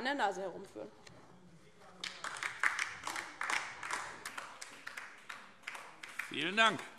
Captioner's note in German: Beifall DIE LINKE und vereinzelt SPD